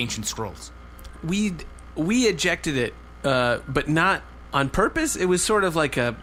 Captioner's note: stammering